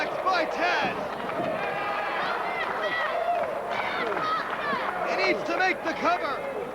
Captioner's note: crowd cheering